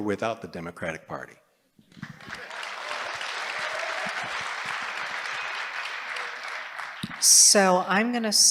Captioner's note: applause